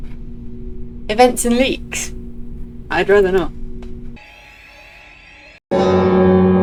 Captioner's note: flashback to every alarm going off at once; extremely loud bell noise